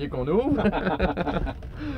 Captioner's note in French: rires